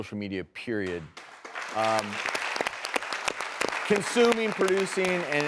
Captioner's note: clapping